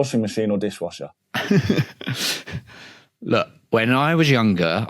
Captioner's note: laughs